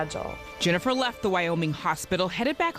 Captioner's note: voiceover